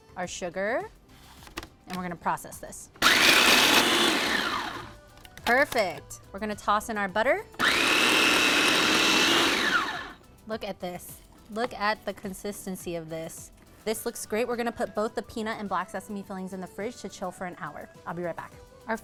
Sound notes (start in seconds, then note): 3.0 processor whirs; 7.6 food processor whirs